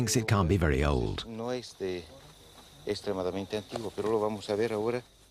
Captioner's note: Spanish spoken audio